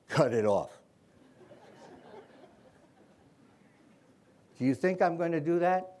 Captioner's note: laughter